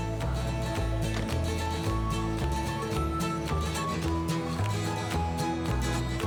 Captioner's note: whimsical music; door thuds